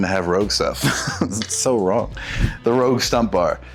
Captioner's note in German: lacht